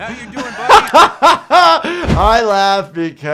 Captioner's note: laughs